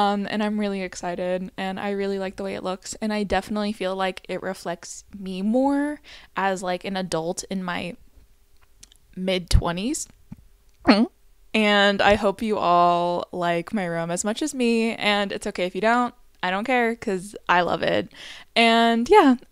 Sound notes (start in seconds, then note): 10.8 gulp